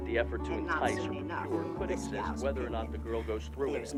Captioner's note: reporters chatter